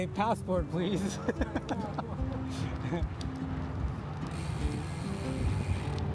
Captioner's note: laughter